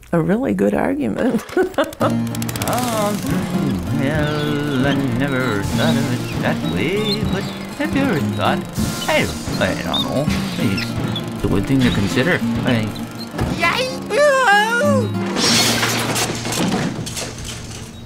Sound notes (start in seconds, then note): 2.2 laughs; 13.6 shouts